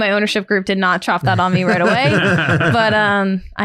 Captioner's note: all laughing